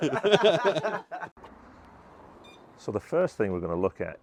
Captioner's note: both laughing